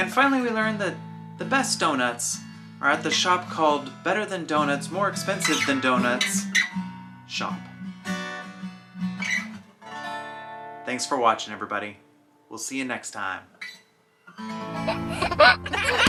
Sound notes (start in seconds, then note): 14.6 giggling